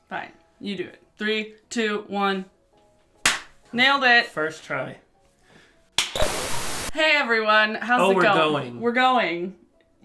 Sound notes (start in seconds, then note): 3.2 clap; 6.0 high five slap; 6.1 static